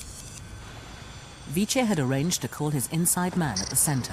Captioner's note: voiceover